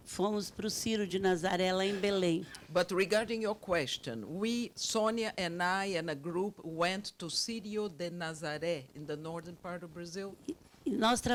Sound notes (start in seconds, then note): 7.5 speaks Portuguese